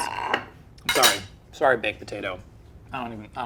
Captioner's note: utensils clanking; plate scraping